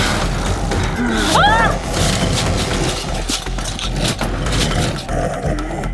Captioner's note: Sheila screaming; dramatic music